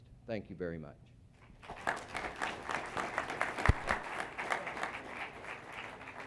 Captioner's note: applause